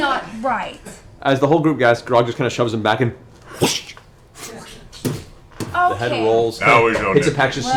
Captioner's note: whoosh whoom, pff pff